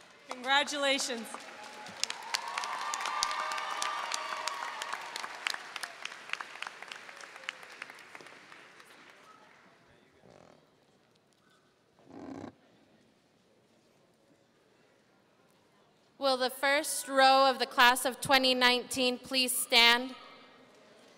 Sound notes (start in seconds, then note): 1.1 audience cheering and applauding